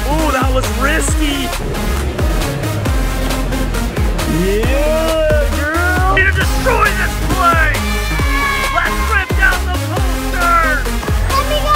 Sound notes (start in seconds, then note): 8.0 kids shouting